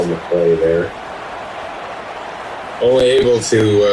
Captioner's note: crowd Noises